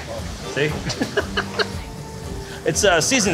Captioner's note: person laughing